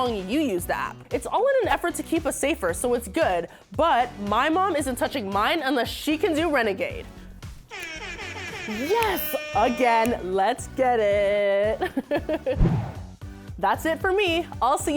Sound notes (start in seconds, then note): 7.7 annoying sports horn; 11.7 she laughs